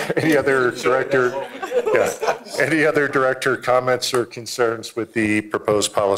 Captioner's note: laughter